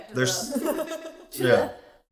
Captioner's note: laughs